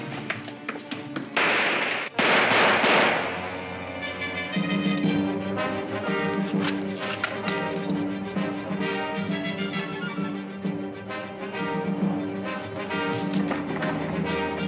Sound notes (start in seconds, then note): 1.3 gunshots crack; 3.6 dramatic music